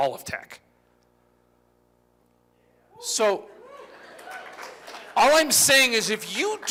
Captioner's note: applause